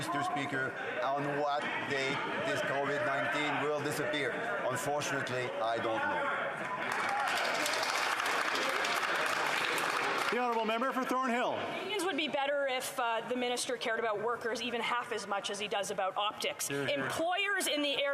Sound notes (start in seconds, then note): 4.1 yelling; 11.3 some Applause